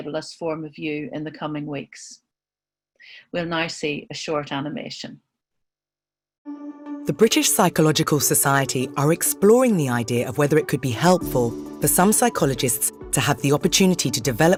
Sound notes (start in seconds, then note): 6.9 voice-over